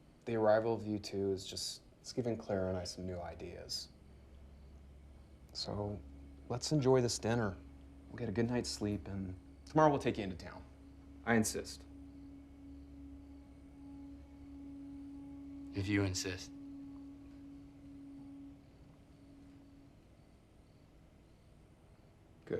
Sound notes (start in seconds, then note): 12.2 crickets chirping; 12.2 tense music; 16.9 tense music; 19.1 crickets chirping